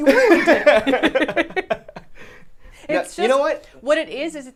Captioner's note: both laughing